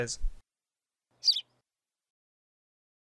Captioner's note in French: chant d’oiseau